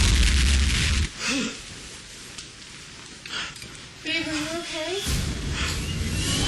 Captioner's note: explosion